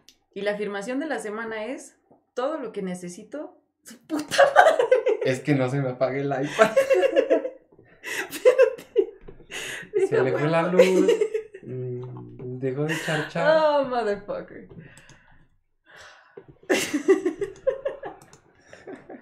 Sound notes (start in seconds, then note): 9.7 laughing still; 9.8 laughing; 15.3 silence; 16.6 starts cracking up again